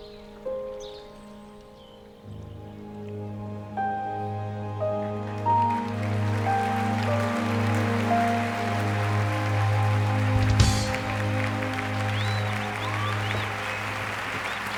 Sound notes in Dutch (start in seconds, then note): 5.2 applaus